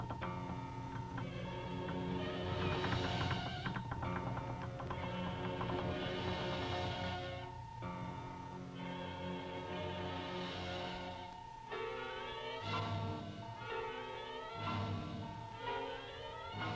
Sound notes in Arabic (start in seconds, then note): 0.1 موسيقى مشوقة; 9.7 صوت الروبوت; 12.7 موسيقى درامية